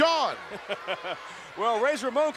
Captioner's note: laughing